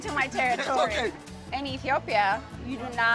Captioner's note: laughing